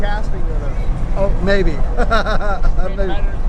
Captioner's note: laughing